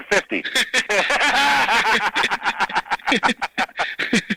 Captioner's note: both laughing